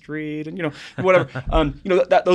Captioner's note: laughs